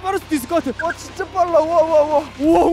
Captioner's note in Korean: 감탄